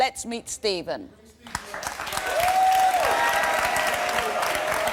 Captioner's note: applause and cheers